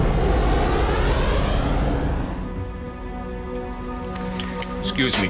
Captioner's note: plane engines roaring